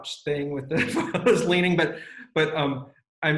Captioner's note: laughs